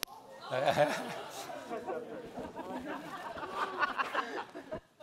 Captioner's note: audience laughs